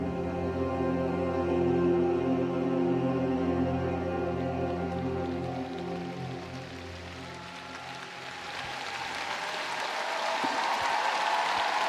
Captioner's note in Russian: аплодисменты